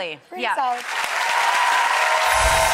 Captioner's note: audience cheers